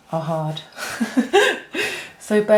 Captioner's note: laughs